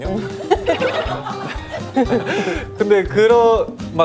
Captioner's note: hahaha